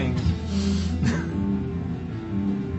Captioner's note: chuckle